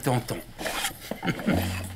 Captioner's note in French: Rire